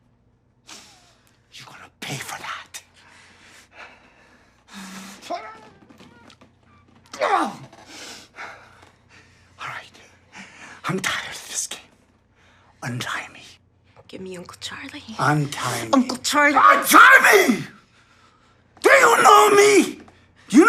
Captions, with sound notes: [he snifles] You're gonna pay for that. [he groans and grunts] [sniffles and pants] Alright, I'm tired of this game. Untie me. Give me Uncle Charlie. - Untie me. - Uncle Charlie! Untie me!!! Do you know me!?